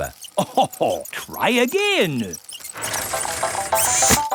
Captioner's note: chuckles